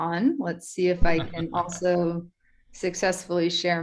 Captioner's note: gentleman chuckles